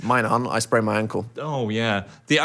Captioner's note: none